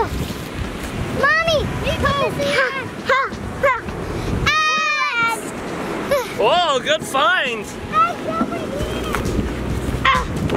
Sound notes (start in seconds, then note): 4.4 screaming